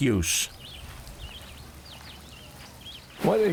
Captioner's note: birds singing